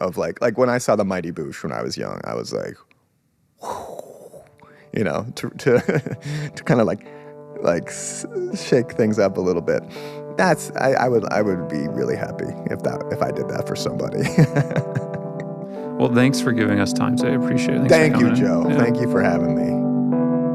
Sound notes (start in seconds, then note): 3.5 exhales; 14.2 laughs